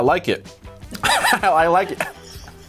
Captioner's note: laughs